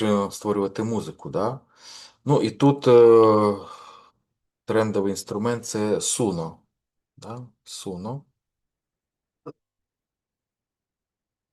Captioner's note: сопіння